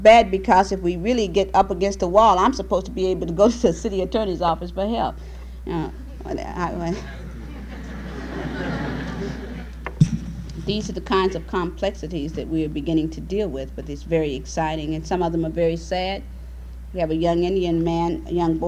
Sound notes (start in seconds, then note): 6.9 laughter